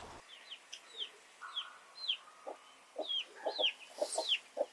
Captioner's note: birds chirping